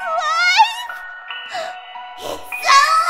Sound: gasp

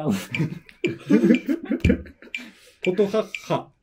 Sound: laughing

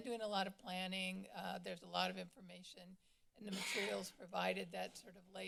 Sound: coughing

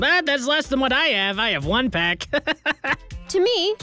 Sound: laughs

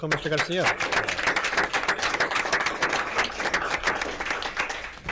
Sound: board applauds

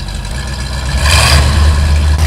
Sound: engine revs

